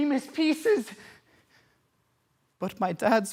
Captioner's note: heavy breathing